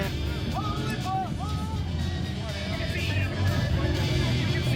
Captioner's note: indistinct chats